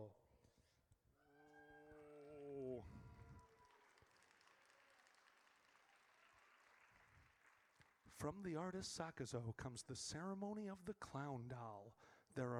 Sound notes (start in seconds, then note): 1.3 audience cheers